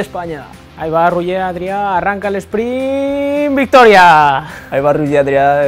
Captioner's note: speaking spanish